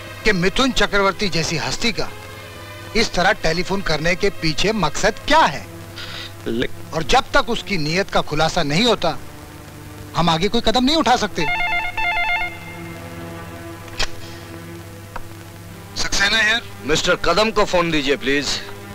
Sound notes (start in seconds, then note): 11.4 phone ringing